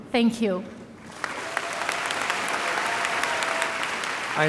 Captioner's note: audience cheering and applauding